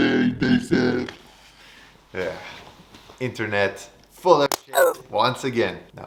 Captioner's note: swearing